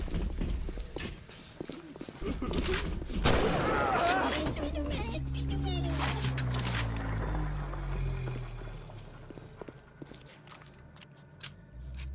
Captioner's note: thunder